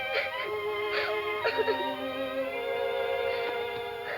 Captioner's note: sobbing